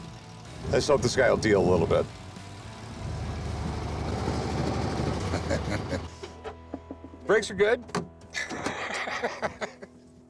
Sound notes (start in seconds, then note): 5.1 chuckles; 8.3 laughs